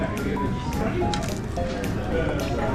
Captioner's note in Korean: 바삭